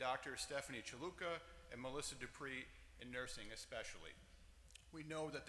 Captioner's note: none